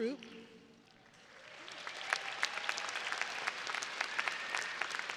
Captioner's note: audience applauding